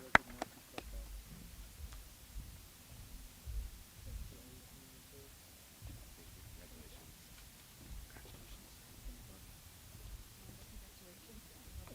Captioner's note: applause